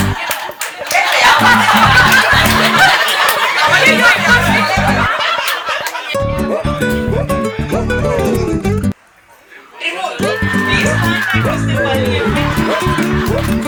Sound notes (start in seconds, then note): 6.7 people cheering